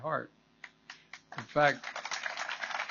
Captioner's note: applause